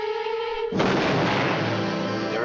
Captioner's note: explosion